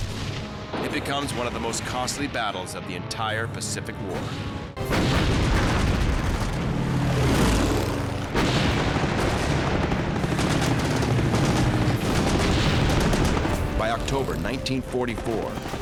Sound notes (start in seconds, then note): 4.9 cannons firing